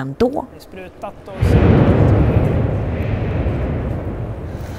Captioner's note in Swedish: tung smäll